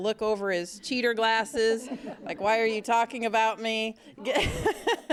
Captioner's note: �laughing�; �laughing�